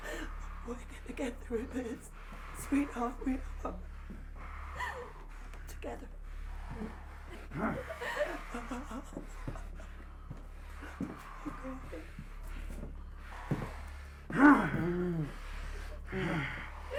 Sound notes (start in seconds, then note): 6.4 sobs; 7.5 clown grunts; 14.1 Skull-Faced Assailant grunts